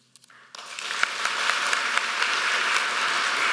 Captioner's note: applause